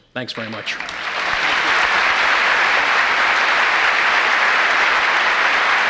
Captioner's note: applause